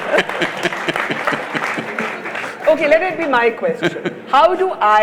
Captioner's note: laughs; laughter/Applause; Sadhguru laughs